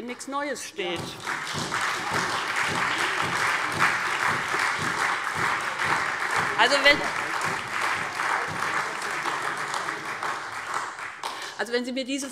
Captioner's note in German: Beifall SPD und Freie Demokraten